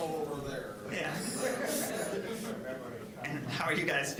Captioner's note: general chatter